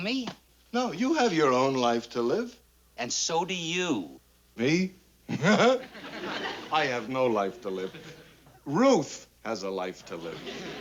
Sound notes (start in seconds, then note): 5.3 chortles